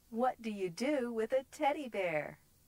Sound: none

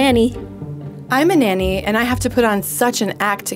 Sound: voiceover

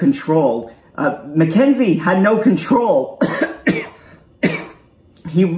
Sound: coughs

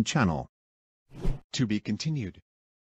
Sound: whoosh

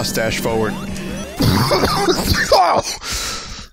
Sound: Vinny coughs

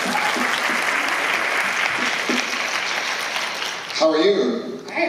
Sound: applause

